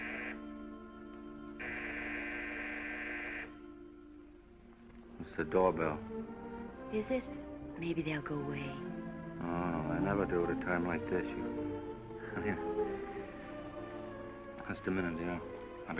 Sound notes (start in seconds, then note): 12.2 chuckles